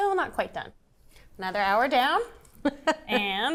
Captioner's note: laughs